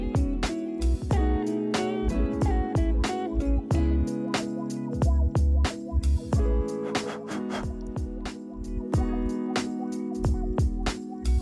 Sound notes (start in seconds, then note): 6.8 panting